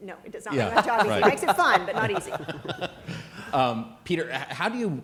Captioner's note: laughter